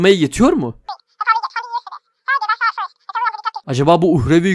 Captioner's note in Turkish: Telefonla konuşuyor